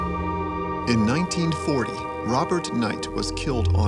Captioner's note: voiceover